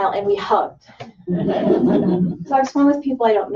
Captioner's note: laughter